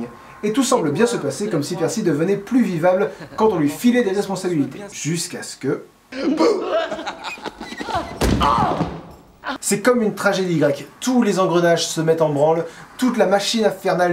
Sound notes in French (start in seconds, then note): 6.1 rire